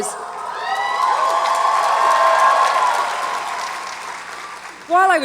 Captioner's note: audience applauds and cheers